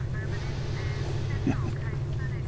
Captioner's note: Calis laughs